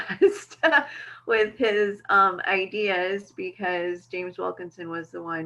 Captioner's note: laughing